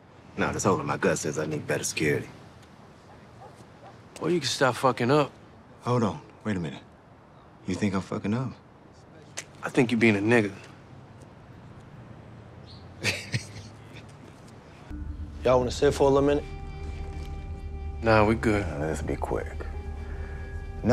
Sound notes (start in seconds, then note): 12.9 Douda laughing; 14.9 tense music